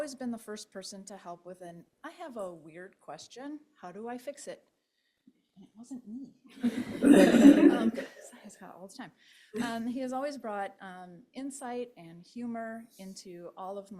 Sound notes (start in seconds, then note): 6.5 laughter